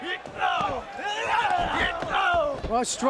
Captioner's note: wrestlers grunting